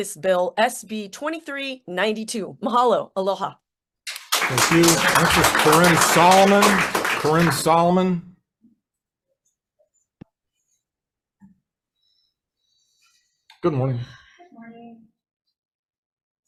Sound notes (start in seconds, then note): 4.0 audience applauds